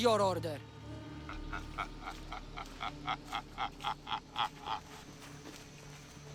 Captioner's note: laughing